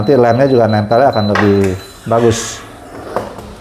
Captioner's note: beeping sound; press machine noise